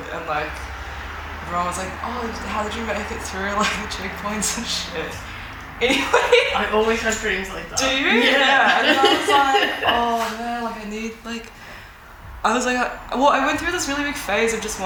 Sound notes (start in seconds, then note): 5.0 laughs